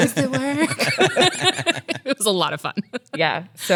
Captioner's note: laughs